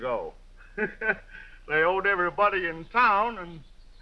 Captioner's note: laughs